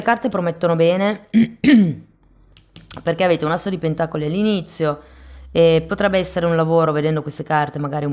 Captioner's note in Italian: schiarire la voce